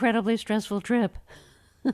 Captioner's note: laughter